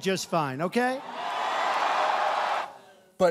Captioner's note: cheering